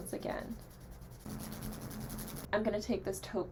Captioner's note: scritchy scratch noises